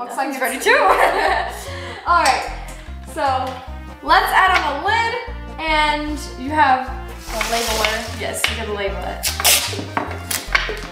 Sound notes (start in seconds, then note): 0.5 girls laughing